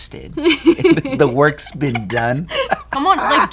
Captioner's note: both laughing